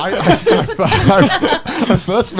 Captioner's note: laughing